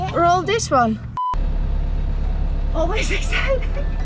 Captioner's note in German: Piepen